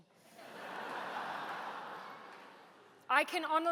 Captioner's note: laughter